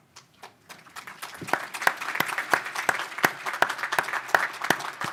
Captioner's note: audience applause